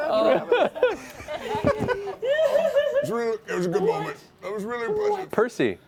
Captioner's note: strained voice